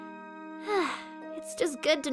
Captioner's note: sigh of relief